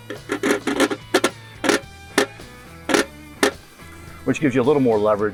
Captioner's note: wrench clicking